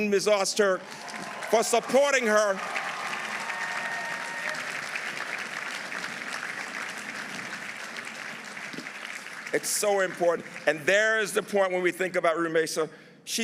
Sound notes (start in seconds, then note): 2.7 audience applauding; 2.7 audience cheering